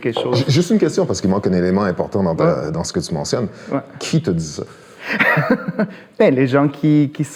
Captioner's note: laughs